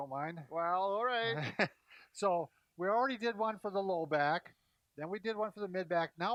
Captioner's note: laughs